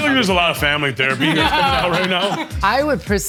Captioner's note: laughing